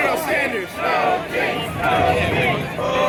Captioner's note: ”Coloniel Sanders” Chant; ”No Kings” Chant; ”Oh we want the Beer Snake” chant